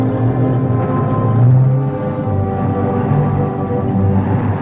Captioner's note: truck engines humming